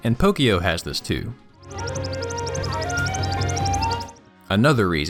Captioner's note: repeated chirping with background music